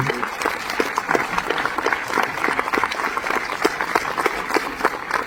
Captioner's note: applause